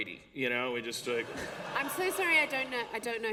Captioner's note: laughter